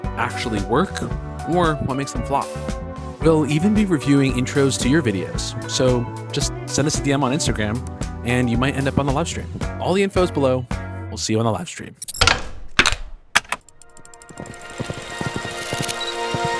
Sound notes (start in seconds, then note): 12.1 things clacking; 13.7 transition glitching; 15.2 horse galloping; 16.3 camera clicking